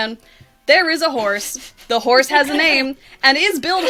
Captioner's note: laughing